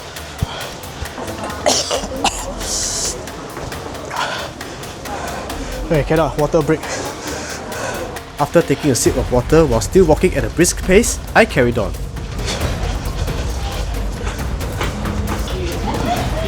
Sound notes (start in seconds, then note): 1.6 coughs